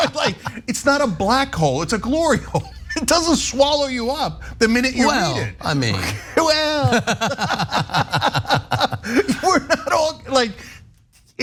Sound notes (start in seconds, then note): 2.9 laugh; 8.2 laugh